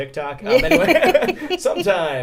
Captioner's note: both laugh